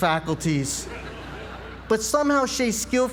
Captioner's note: laugh